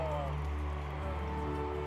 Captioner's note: crowd cheering